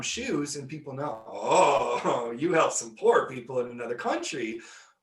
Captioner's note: laughing